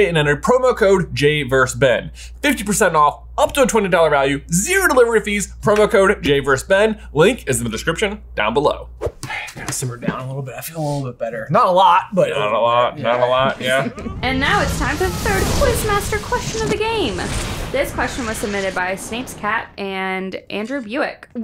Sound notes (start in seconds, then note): 13.9 explosion noise